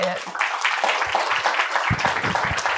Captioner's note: applause